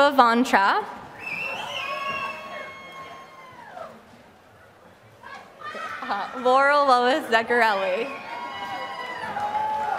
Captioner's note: applause